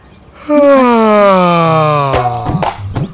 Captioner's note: he yawns